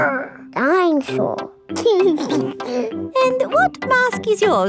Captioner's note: giggles